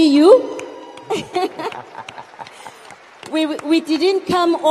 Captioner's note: audience cheers and applauds; laughs